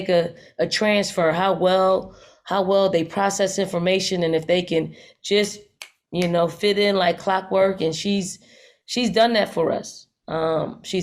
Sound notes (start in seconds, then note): 5.8 fingers snap